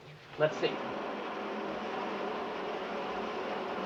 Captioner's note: water running